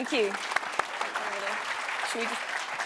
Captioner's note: applause